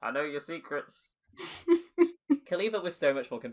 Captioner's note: laughs